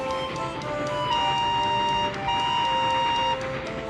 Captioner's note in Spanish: silbato